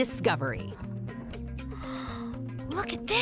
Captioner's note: gasping